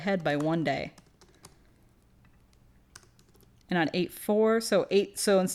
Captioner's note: typing